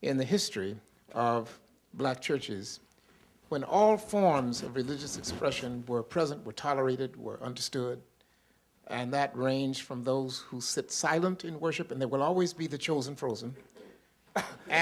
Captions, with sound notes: in the history of black churches, when all forms of religious expression where present, were tolerated, were understood. And that ranged from those who sit silent in worship. And there will always be the chosen frozen. [LAUGHTER] The chosen frozen.